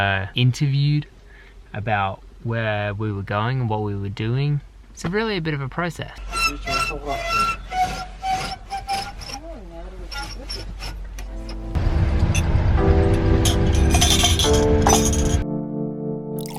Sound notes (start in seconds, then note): 6.2 screeching window blind; 13.4 glass noises